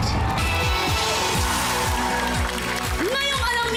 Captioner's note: applause, cheering